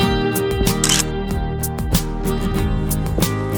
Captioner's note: photo click